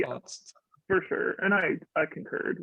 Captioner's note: distorted Voice